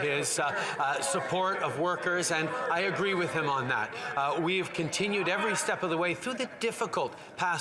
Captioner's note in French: voix de l'interprète